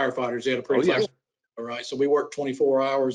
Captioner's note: group chattering